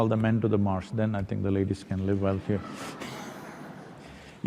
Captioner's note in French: Rire